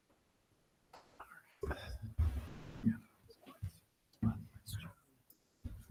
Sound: speaking faintly off mic

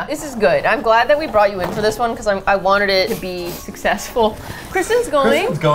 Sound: laughs

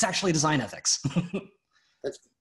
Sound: laughs

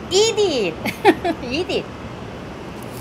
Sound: laughs

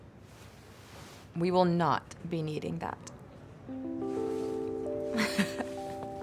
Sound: chuckles

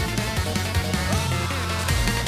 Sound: screams of pure rage

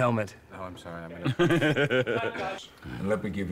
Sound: laughs

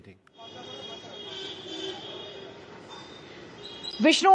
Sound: horns beeping

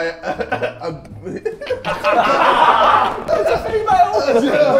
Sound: Sidemen laugh

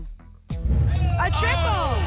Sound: rumbling sounds

